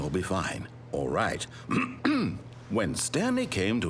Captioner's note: ahem